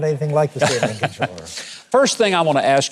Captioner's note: Mike laughing